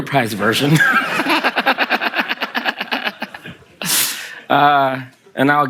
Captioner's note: Kelsey and the audience laugh